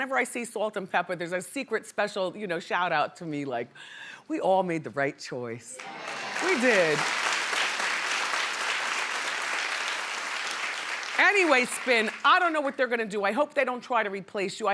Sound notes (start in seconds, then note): 7.8 applauding